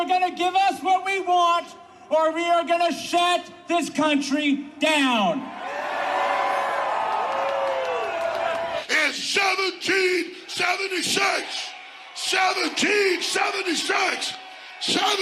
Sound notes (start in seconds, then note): 1.7 applause; 12.5 applause